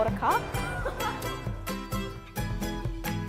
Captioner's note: interviewer laughs